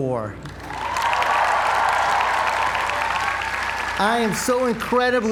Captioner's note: applause